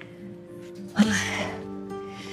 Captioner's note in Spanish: Suspiro